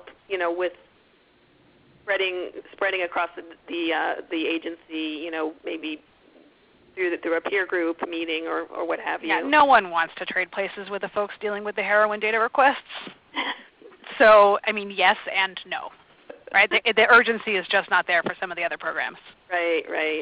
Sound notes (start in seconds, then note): 13.4 laughs